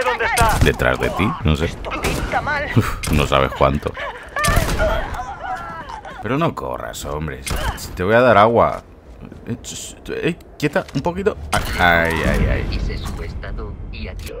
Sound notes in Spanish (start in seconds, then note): 3.6 Gritos; 4.4 Más disparos; 7.4 Disparos; 11.4 Disparo